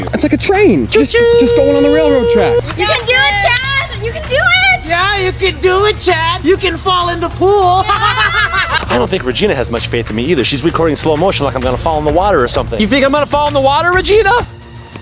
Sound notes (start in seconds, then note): 0.9 train whistles; 7.6 laughs loudly